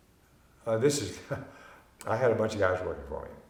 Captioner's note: chuckling